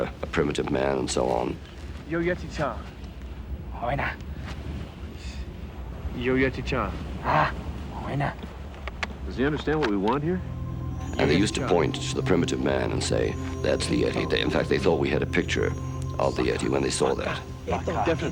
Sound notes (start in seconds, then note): 2.3 non-english speech